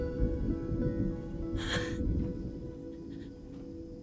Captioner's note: chuckles